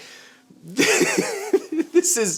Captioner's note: laughing